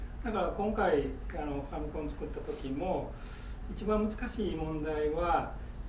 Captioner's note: speaking in foreign language